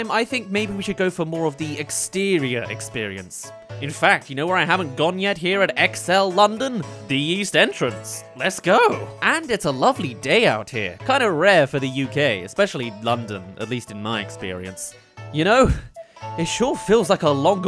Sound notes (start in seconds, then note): 14.4 breathless